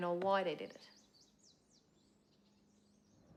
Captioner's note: birds chirping